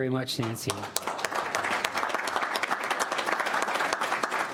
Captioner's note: applauding